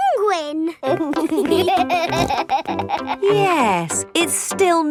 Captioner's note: laughing